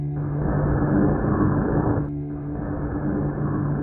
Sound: static hissing

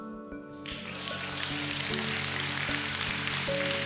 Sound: crowd clapping

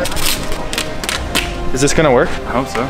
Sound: tape squeaking

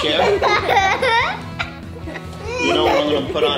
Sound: laughs

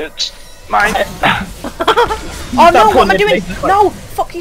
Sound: hahhahaa

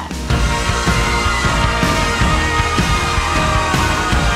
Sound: crowd cheering

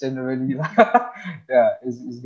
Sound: both laughing

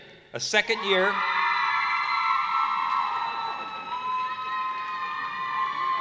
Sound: cheering

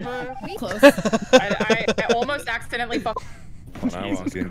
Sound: laughter

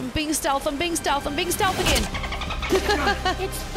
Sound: laugh

